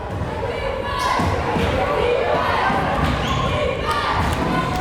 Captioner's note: crowd chanting defense